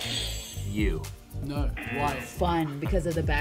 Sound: buzzer rings; buzzer

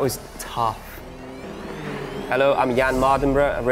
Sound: engines revving

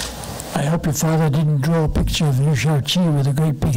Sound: microphone distortion

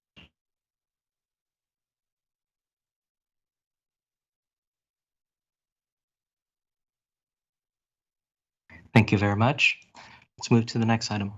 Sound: moment of silence

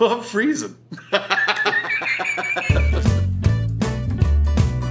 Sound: laughs

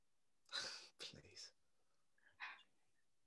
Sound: danny scoffs

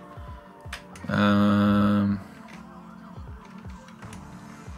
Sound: groans

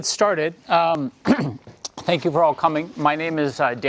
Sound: cough

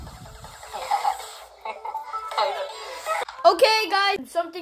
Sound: laughter

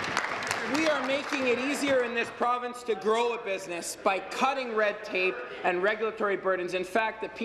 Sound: applause

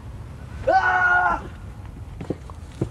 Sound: screaming

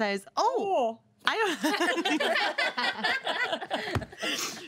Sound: girls laughing

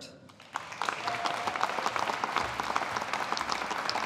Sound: audience applauding

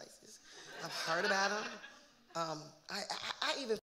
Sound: audience laughing

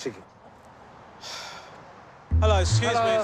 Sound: sigh

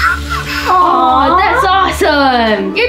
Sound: cooing

